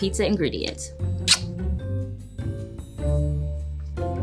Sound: kisses loudly; whimsical music

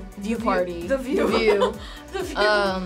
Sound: laughs

